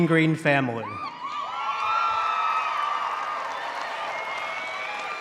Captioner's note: audience cheering